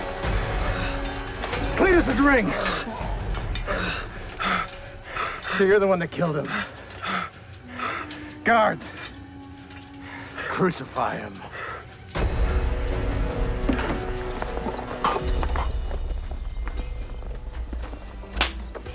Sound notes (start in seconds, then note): 6.9 panting; 11.9 dramatic music playing